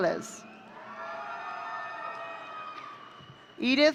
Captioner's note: audience cheering